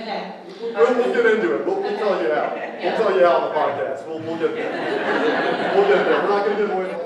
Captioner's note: laughter